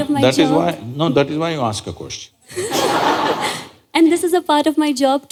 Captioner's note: laughter